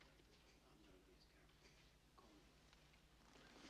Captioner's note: whispering